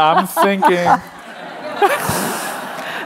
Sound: laughter

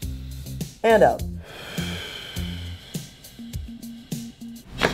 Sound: breathing

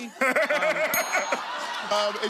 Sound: laughter

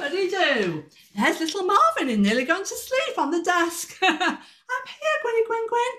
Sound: laughter

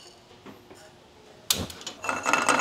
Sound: none

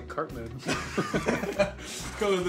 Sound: all giggling

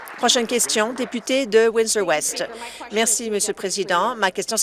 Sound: applause

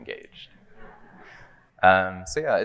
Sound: audience laughing

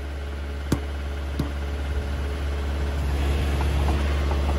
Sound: hammer thudding

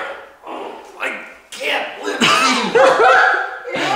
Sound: grunting; laughing

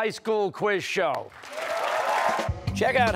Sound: cheers and applause

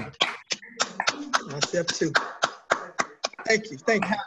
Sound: applause

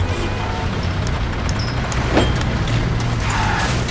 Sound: street noises rising; car sounds

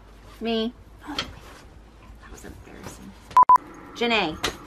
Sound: beep

